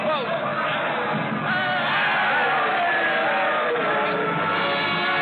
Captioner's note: cheering